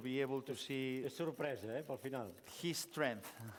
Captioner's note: non-english speech